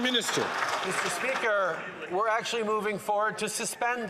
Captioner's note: some Applause